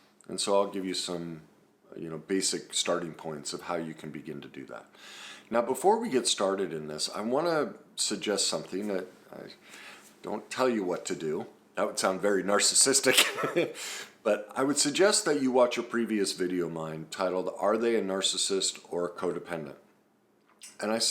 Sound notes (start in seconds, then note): 13.2 laughs